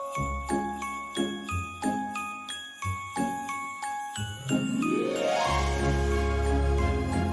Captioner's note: jingling continues